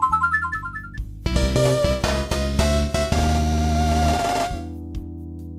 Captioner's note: notification plays; more intense notification plays